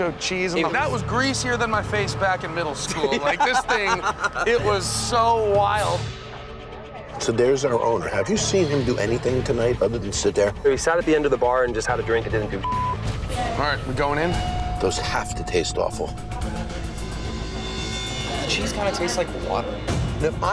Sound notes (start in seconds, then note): 2.9 friend laughs; 12.6 beep